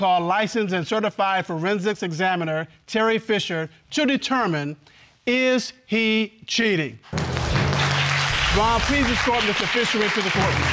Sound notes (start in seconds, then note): 7.1 audience applauds